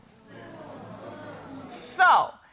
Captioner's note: audience exclaiming